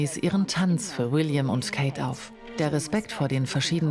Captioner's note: speaking in foreign language